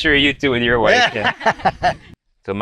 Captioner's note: laughs